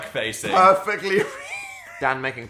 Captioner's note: laughing